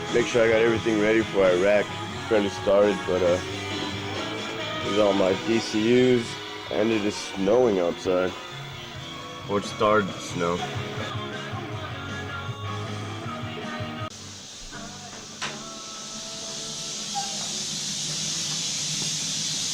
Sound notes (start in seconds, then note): 15.9 shower running